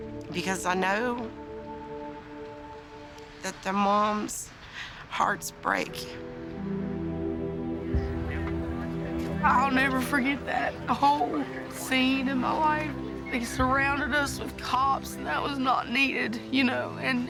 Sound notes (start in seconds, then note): 8.0 radio squawking